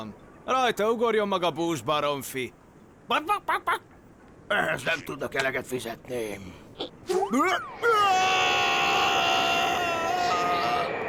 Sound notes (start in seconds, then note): 2.6 cackles like a chicken; 7.4 screaming